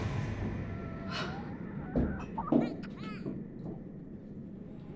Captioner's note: crash; child Crying